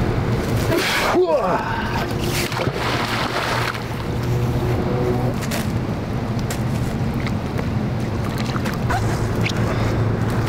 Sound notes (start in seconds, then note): 0.8 man grunts; 2.0 water splashes